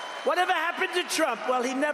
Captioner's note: applause